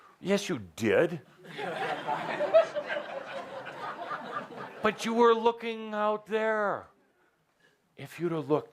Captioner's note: laughter at tone